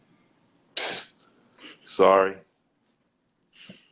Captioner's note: psssst